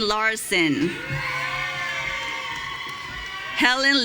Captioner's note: audience cheering